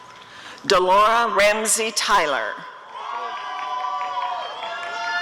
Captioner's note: applause and cheering